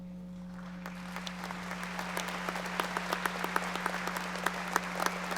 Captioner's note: audience applauding